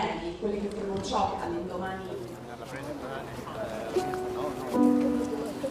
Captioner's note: attendee speaking in foreign language